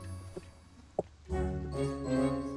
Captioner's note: footsteps